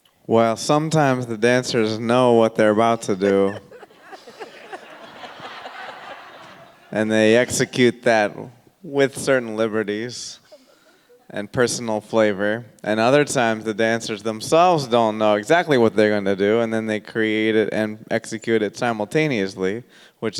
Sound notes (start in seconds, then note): 2.9 everyone laughing